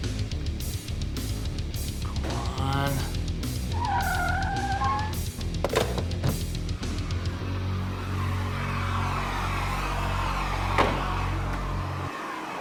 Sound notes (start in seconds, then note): 3.5 tires squealing